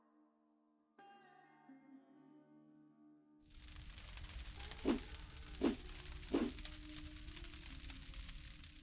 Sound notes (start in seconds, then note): 3.4 fire crackles